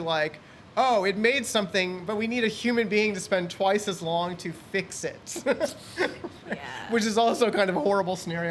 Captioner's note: laughs